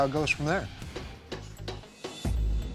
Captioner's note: hammering